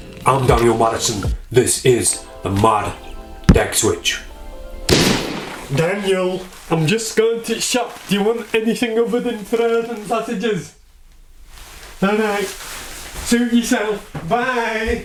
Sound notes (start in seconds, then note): 4.9 gunshot